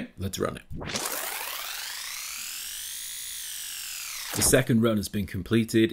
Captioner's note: whirring